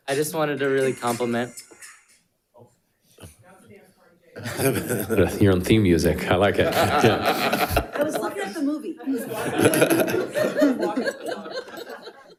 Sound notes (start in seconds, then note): 0.1 upbeat music; 6.4 all laughing